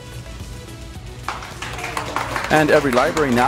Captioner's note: people clapping